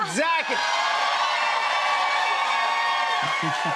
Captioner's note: cheers and applause